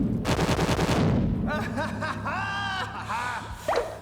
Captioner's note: <i> laughing</i>